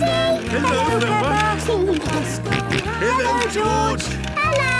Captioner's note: George giggling and snorting